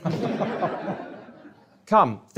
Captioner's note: audience laughs